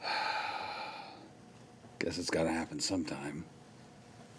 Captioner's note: sighing